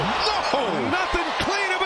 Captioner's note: cheers and applause